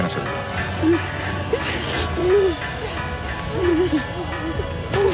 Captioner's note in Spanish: Sollozos